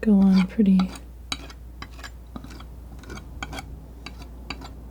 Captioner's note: tapping